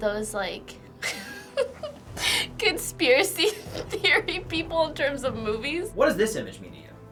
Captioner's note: laughs